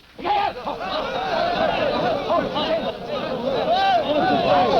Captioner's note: people shouting